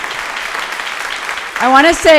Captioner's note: audience applauding